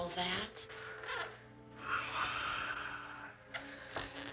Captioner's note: sighs